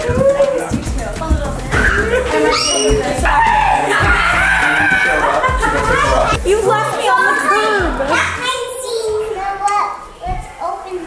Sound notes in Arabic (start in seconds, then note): 2.3 صرخات متحمسة